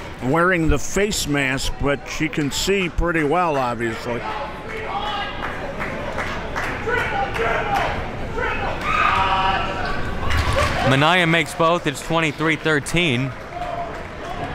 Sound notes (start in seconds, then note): 5.2 crowd talking and yelling